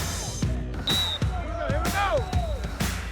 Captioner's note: whistle blowing